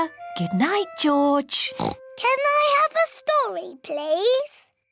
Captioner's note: oinks